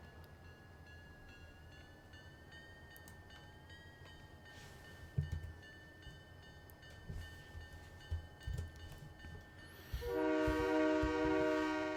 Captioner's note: train whistle